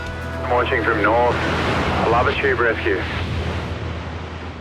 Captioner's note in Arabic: الراديو